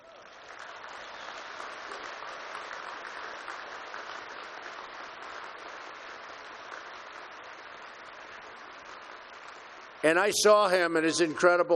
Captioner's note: applause